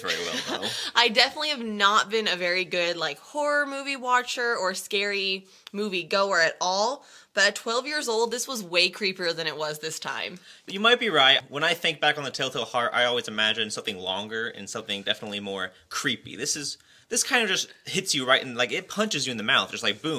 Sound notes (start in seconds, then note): 0.0 laughs